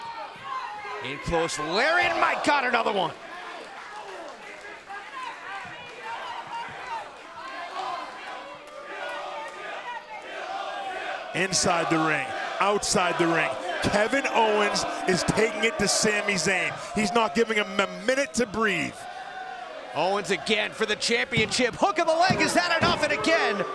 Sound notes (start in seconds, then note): 9.4 fans chanting